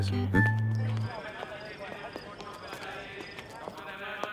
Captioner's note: Footsteps